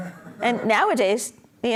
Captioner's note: audience laughs